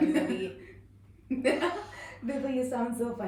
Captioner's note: laughter no. 3843246